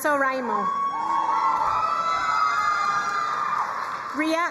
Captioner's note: crowd cheering and applauding